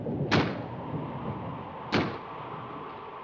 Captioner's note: slamming